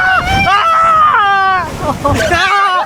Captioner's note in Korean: 아아아아아아악